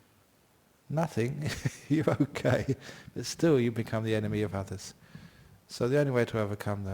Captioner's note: laughs